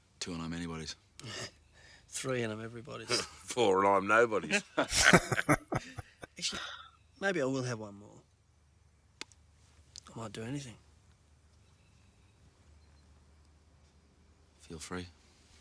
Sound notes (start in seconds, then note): 4.8 laughing